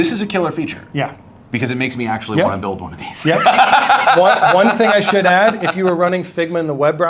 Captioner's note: laughs